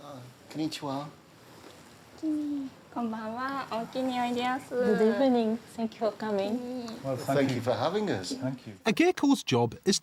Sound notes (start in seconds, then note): 4.0 women speaking Japanese